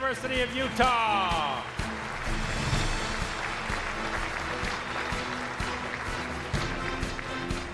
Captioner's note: dramatic music; audience applauds